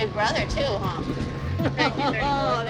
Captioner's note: laughs